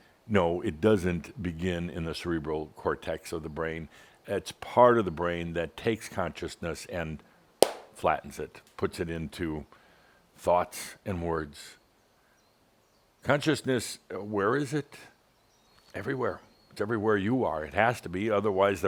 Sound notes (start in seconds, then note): 7.6 bang!